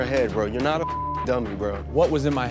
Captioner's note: beep